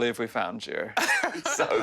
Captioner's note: laughing